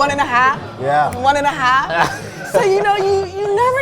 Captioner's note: laughs